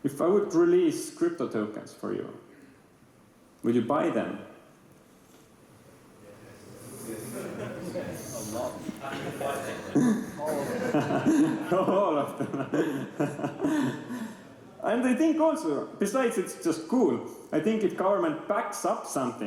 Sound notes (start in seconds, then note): 10.4 laughter; 12.1 laughing